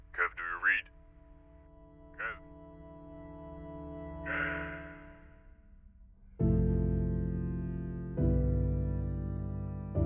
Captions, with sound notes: Kev, do you read? (through intercom) Kev? Kev!? [Sad Music]